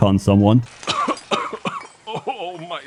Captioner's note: horrible coughing noises